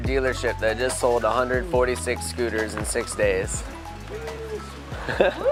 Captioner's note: laughs